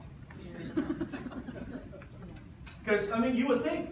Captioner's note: audience laughs